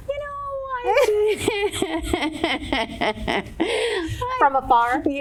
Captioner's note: laughing